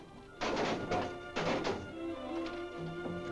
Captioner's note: metal clattering sound